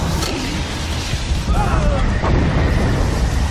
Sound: screams

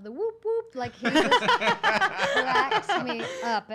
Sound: laughs

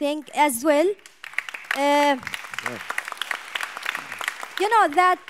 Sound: audience applauds

